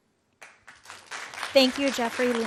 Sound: audience clapping

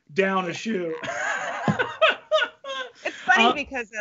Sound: both laugh

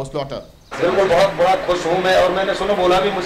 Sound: non-english speech

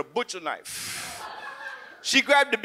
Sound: audience laughs

